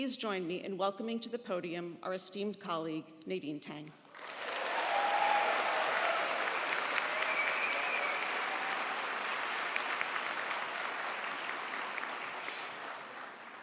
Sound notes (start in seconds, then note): 4.1 audience applauding; 4.2 audience cheering